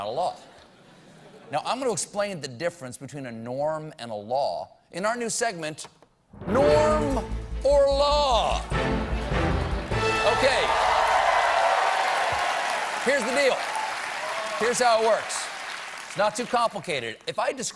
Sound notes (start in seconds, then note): 9.2 cheers and applause